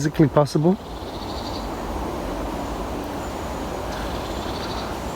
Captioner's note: birds chirping